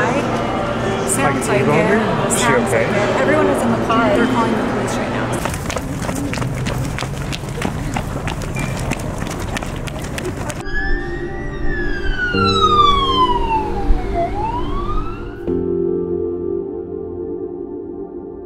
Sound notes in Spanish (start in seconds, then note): 5.3 pasos fuertes; 9.6 sirenas aullando; 15.6 música suave